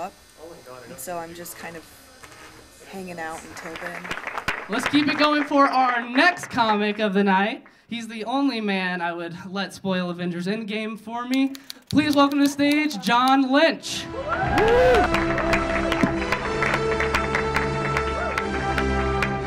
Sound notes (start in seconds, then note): 3.2 audience clapping; 14.0 audience cheering; 14.0 dramatic music; 14.4 audience clapping